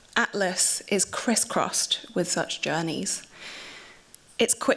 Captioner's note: none